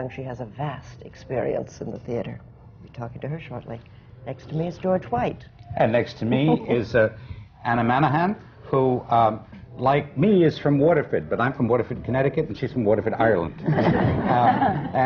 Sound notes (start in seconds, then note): 5.6 laughs